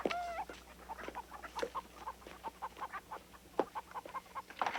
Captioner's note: chickens clucking